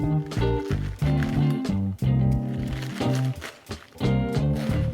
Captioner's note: upbeat music; cabbage crunches